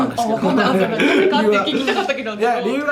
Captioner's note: laughs